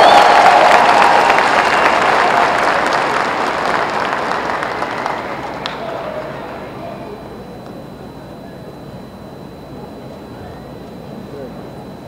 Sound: applause

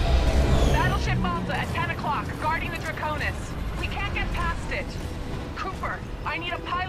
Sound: radio

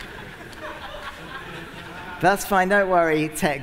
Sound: laughter

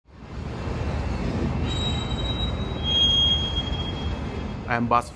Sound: brakes squealing

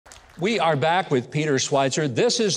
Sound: audience applauding

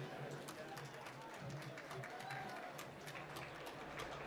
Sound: applause

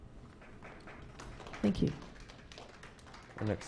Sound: clapping

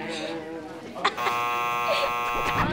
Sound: buzzer sounding

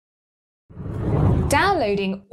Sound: air whooshes

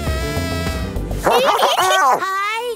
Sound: giggling

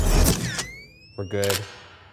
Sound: camera shutter clicks

